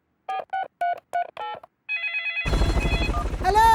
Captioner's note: dialing; phone ringing